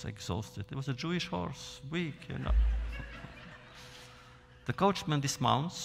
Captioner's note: laughter